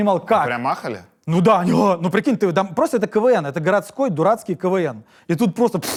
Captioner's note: gasps